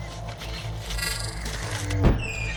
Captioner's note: door creaking; creeping digital glitches